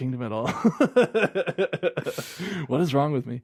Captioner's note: laughing